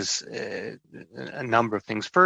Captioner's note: chuckling